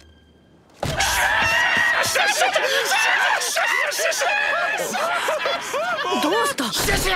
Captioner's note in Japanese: 一同の笑い声